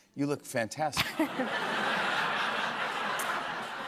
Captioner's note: laughter